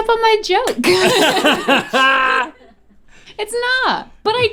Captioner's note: laughing